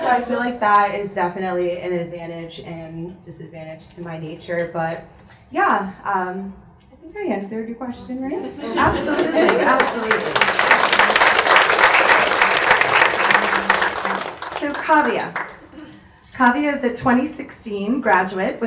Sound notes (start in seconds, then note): 10.4 audience claps